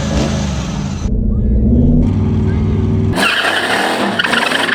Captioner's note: laughing